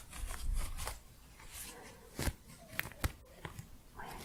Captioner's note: crunchy scratching